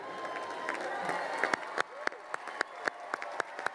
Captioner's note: crowd applauding